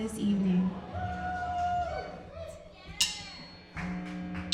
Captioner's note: crowd cheering